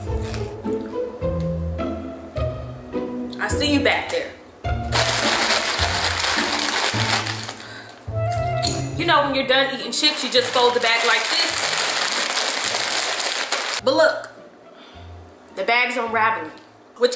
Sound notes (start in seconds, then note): 5.1 rustles aggressively